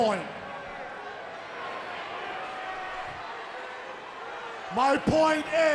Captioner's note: crowd cheering